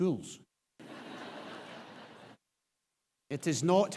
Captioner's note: audience laughs